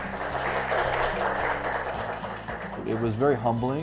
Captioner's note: attendees applauding